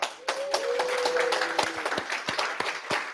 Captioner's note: applause